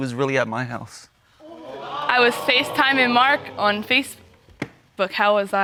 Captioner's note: audience exclaims